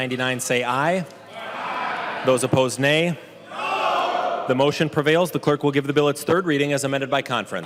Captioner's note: chorus of ayes